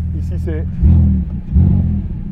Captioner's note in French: Coup de gaz